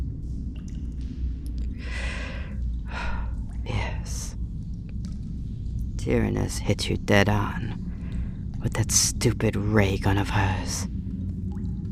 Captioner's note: sigh